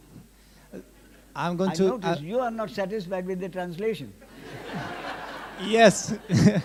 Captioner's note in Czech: smích